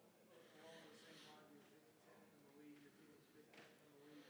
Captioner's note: faintly speaking